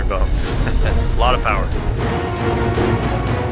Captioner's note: chuckles